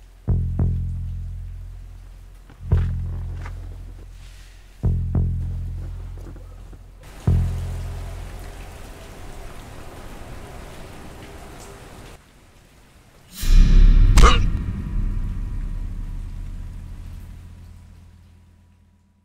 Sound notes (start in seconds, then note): 0.3 light dramatic music; 7.4 rain pattering; 13.3 suspenseful music; 13.4 elbow thuds; 14.2 truck driver groans